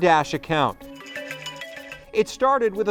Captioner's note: phone ringing